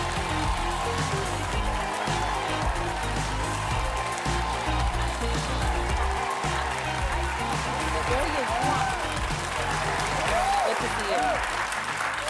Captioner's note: cheers and applause